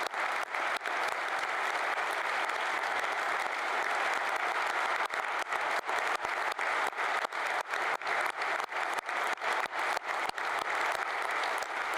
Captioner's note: applause